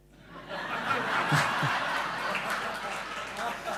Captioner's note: laughing